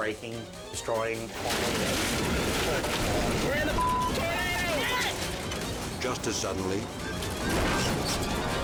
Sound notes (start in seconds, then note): 1.3 debris crashing; 4.8 shouting